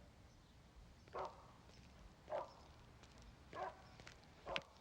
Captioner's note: dog barking